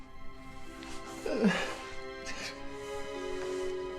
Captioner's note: crying